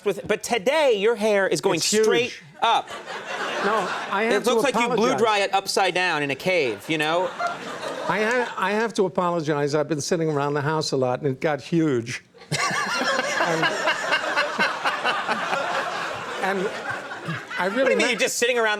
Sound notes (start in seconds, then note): 12.5 laughing loudly